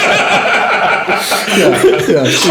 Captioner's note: laughing